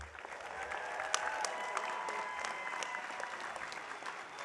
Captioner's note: audience applauding